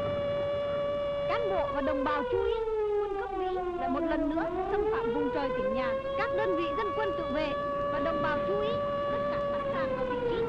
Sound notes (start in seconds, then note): 2.0 speaking foreign language